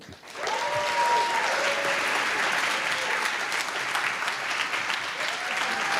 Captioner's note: applause